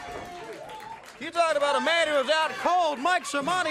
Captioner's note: crowd cheering